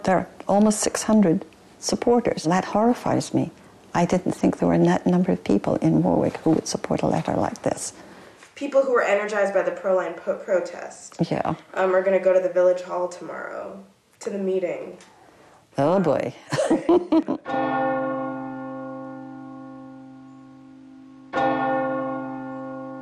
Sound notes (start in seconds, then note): 16.4 laughing; 17.4 church bell ringing